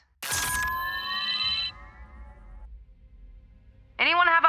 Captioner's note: warp whirring